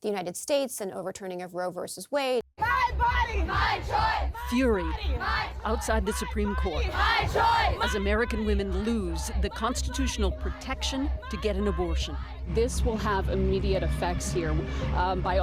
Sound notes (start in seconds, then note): 6.4 shouting; 8.5 chanting